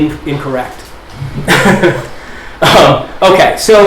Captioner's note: chuckles